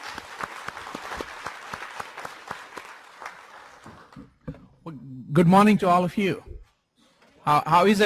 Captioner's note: applause